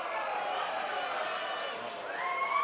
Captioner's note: fans chanting